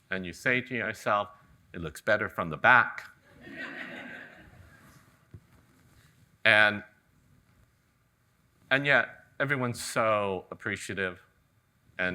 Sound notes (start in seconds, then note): 3.4 audience laughing